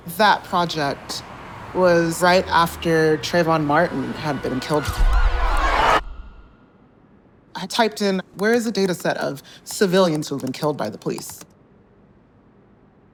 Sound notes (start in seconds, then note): 5.2 sirens blaring